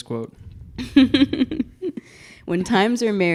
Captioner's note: laughing